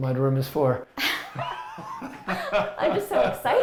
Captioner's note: both laughing